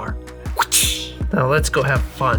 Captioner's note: whip sound